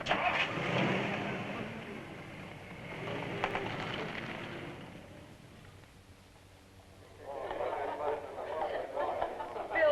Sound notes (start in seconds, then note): 0.0 car engine starts; 2.4 car softly accelerates